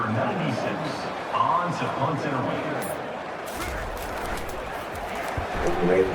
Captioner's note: crowd Noises